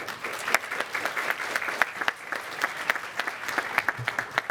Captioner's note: cheers and applause